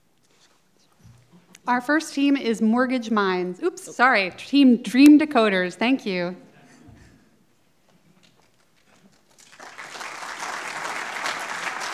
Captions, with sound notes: Scrolling, scrolling. - Our first team is Mortgage Minds. Oops, sorry, Team Dream Decoders. Thank you. (audience laughing) (audience clapping)